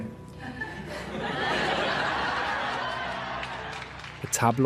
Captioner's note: laughter